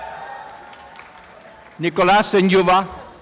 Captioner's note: applause and cheering